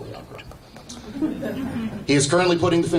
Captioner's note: audience chuckling